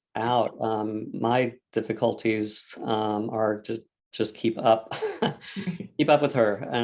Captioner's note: chuckles